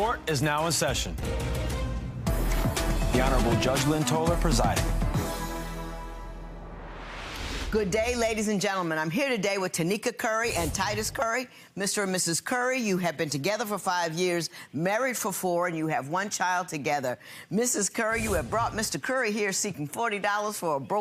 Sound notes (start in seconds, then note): 2.4 upbeat music; 6.4 swooshing